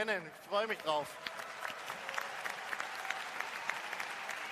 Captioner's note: applause